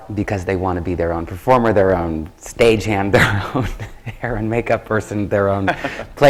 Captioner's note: laughs